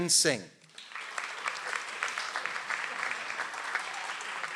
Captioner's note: audience applauds